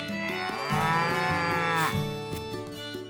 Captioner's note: cow moos